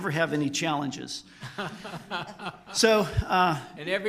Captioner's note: group laughter